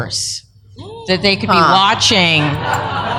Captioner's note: laughter